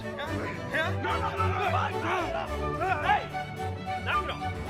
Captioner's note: men groaning